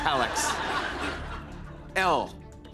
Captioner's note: laughter